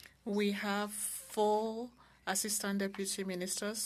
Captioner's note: speaking French